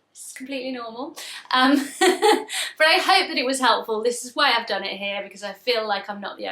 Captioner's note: laughs